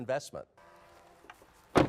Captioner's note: truck door closes